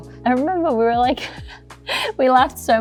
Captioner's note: laughs